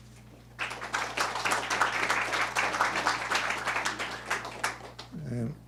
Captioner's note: audience applauds